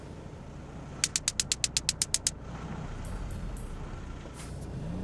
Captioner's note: electrical fizzling